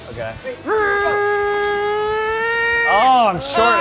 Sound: imitates car engine revving

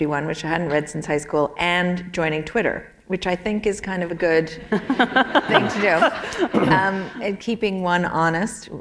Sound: laughter

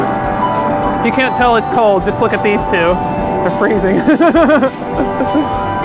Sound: laughs

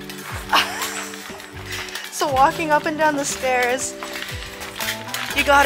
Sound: laughs

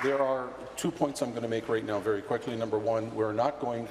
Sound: applause

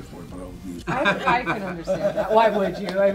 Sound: laughs

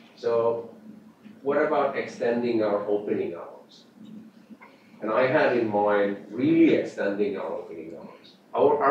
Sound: off mic

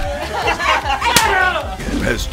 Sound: grunts; slapping

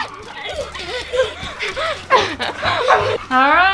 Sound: both panting

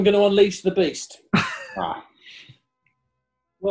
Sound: laughs

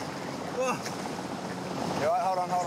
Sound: man exhales heavily

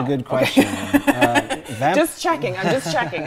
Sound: laughs

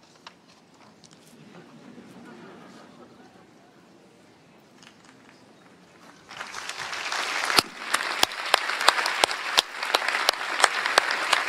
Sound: applause

